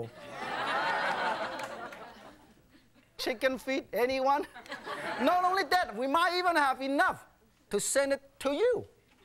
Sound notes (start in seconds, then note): 0.0 audience laughing; 0.3 audience groaning; 4.4 audience laughing